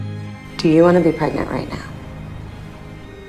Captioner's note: voiceover